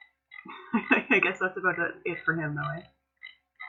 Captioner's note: laughter